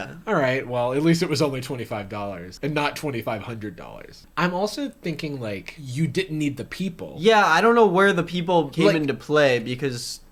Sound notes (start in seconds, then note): none